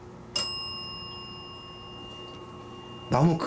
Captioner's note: the sound of the bell